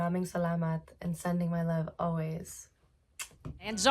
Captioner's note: blows kiss